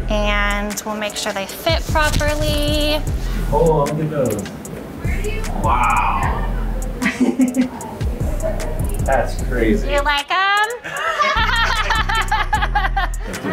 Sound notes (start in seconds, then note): 5.8 chuckles; 10.8 all laughing